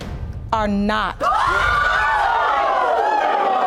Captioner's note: audience yells